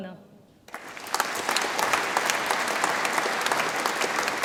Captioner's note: audience applauds